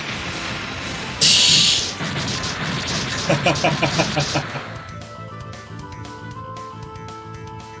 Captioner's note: laughs